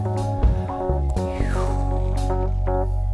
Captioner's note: exhales